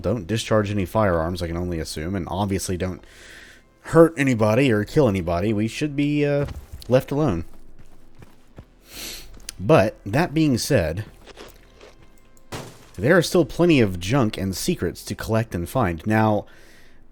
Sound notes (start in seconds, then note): 12.4 smash